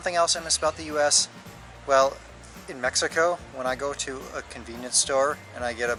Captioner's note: none